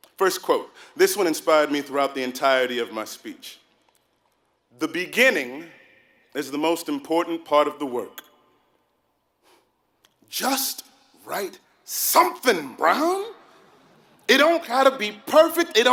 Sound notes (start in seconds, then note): none